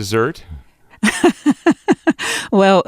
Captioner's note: laughs